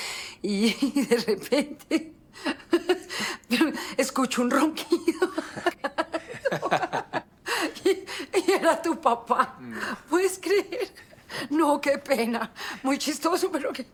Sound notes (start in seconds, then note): 5.2 both laugh loudly